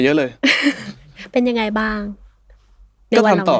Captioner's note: laughs